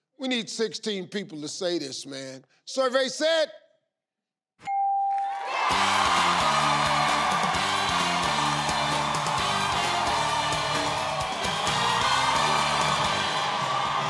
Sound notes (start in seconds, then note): 4.6 bell chimes; 5.3 audience applause; 9.2 triumphant tune